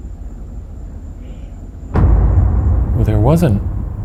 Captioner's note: mysterious voice in background